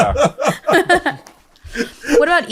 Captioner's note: all chuckle